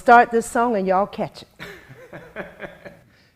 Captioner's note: laughs